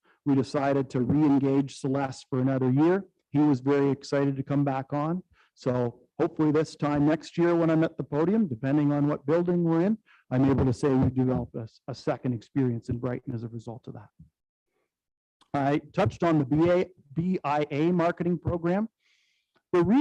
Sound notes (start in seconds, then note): none